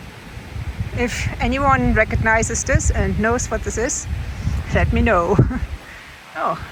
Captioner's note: laughs